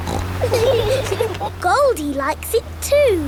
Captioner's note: laughing